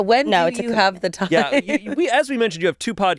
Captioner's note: chuckles